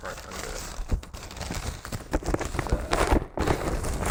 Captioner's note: paper rustles